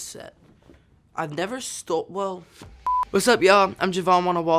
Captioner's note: beep